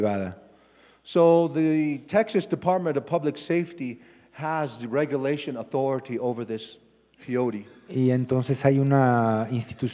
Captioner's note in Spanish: Expositor habla en inglés